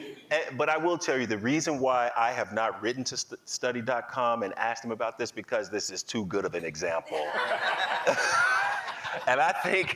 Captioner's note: laughing; laughing